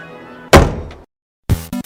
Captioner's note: bangs the door